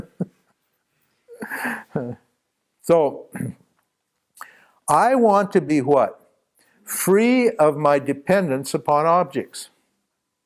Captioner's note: more laughs